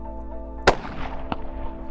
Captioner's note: gunshot